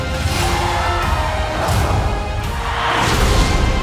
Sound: both scream; screeches; music intensifying

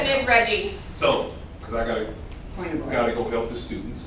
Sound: sound of agreement

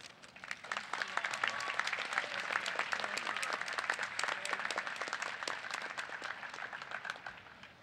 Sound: applause

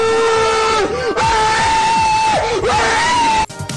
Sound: screaming

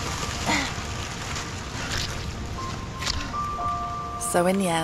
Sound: sloshy mud

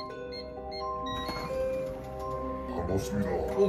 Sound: door opened

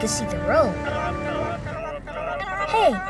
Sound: chattering

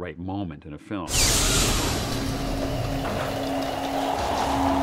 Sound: whooshing

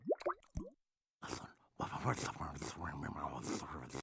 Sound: whispering

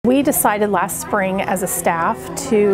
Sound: children talking

